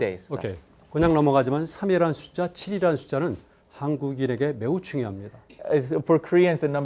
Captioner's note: speaking in Korean